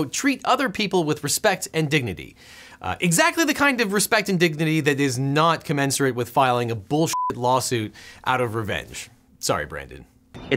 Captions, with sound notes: "Treat other people with respect and dignity." Exactly the kind of respect and dignity that is not commensurate with filing a bull (beep) lawsuit out of revenge, sorry Brandon.